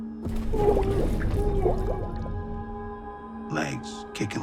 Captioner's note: ominous music; scream gurgling